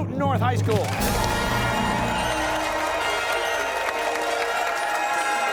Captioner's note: cheers and applause